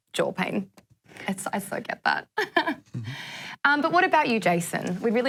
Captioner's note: laughs